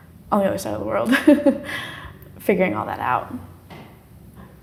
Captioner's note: laughs